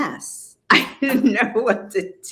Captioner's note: laughing